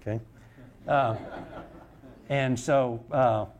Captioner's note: audience laughter